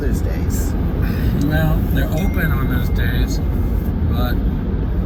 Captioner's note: phone chiming